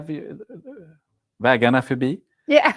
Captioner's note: non-english speech